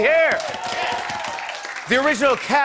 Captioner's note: cheers and applause